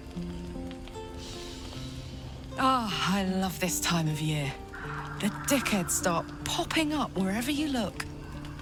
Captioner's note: inhales